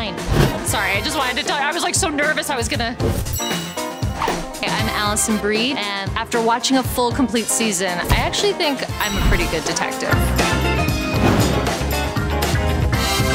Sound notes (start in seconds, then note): 3.3 ding; 9.5 upbeat music